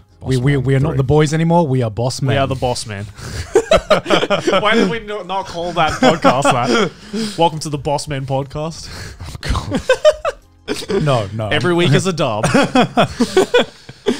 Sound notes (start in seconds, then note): 3.2 all laughing; 9.5 laughs; 12.4 laughing